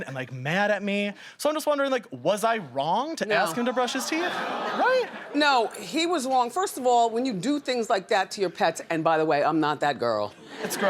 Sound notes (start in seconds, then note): 4.5 audience shouts agreement